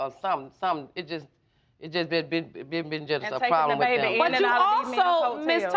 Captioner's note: stammering